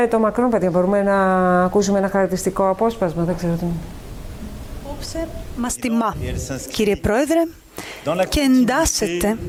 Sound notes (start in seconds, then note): 4.8 female voice